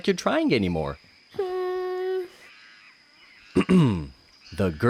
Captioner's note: dismissive sound; clears throat